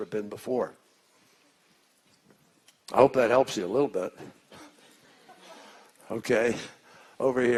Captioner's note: laughter